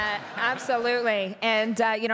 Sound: laughter

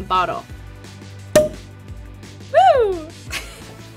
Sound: cork pops

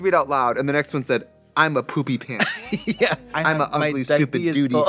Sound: laughing

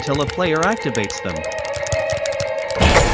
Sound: super smash bros melee noises

